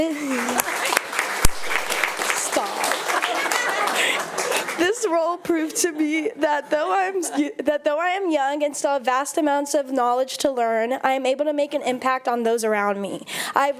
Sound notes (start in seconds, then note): 0.0 audience applauding; 3.5 audience laughing